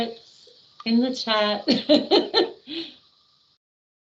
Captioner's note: laughing